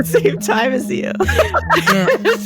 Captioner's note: both laugh